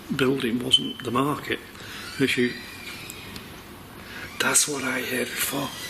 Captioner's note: door creaking